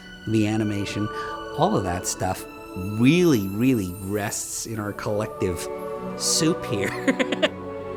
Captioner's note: chuckles